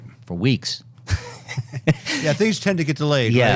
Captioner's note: laughing